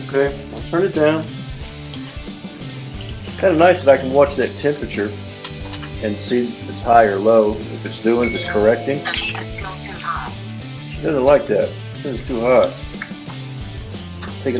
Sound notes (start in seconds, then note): 8.2 electronic beep; 11.3 voiceover